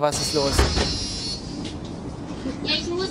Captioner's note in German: Piepsen